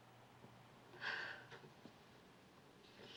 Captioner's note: sighs